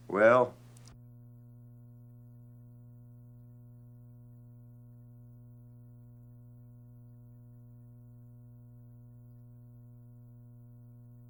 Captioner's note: silent